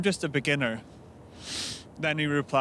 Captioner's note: sniffs